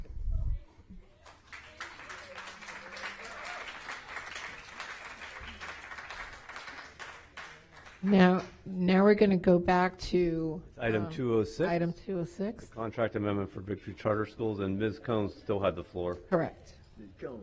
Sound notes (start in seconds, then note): 9.3 applause